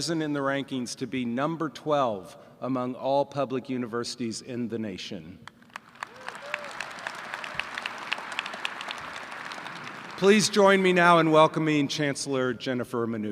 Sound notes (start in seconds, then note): 5.6 applause & cheers